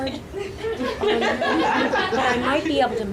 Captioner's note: audience laughing